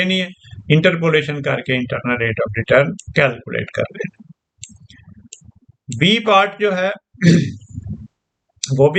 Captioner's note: clears throat